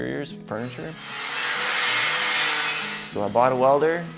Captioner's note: tool grinding